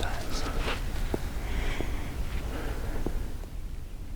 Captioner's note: sniffs